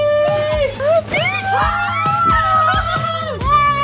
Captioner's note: yelling